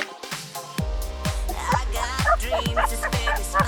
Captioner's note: laughing